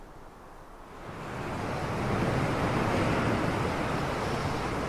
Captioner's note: waves crashing